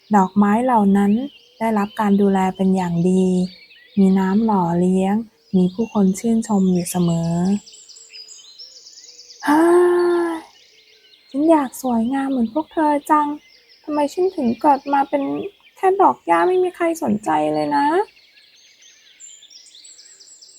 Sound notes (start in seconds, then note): 9.4 sighs